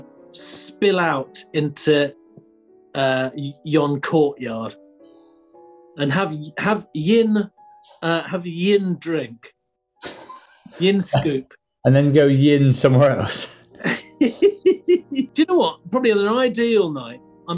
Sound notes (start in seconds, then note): 10.0 sniggering; 13.8 giggling